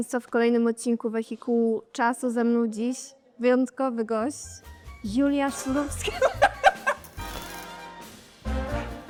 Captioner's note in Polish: śmiech